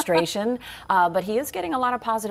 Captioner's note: laughter